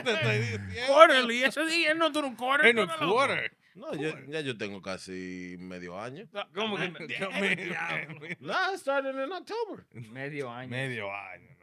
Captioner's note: speaking Spanish